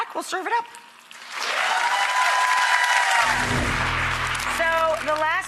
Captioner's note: audience applauding